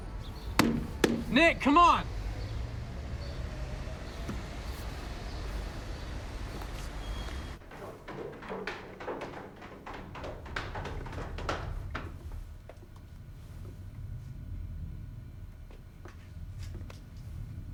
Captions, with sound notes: (knocking) Nick, come on! (footsteps clomping)